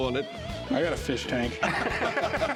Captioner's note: laughter